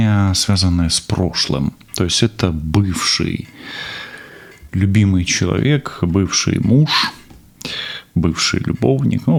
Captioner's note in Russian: тяжело вздыхает